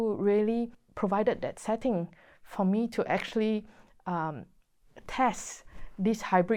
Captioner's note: none